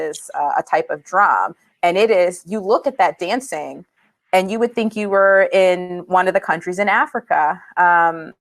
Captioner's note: speaking spanish